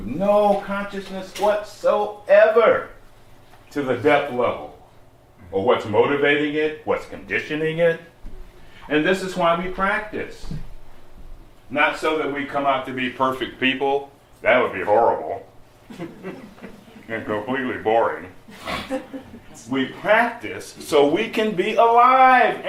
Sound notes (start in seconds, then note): 15.9 slight laughter